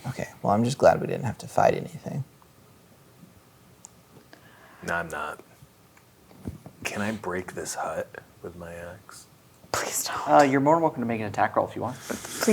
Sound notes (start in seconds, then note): 9.4 whispers